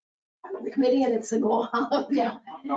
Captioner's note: laughs